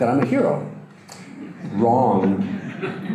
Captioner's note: audience laughter